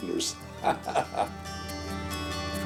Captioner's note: laughs